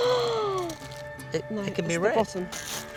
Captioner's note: gasps